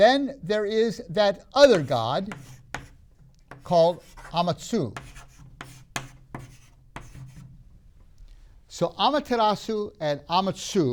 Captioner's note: marker clunks on the board